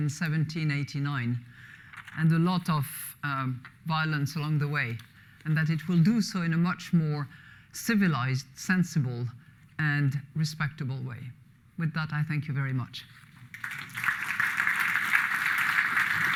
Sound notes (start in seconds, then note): 13.4 applause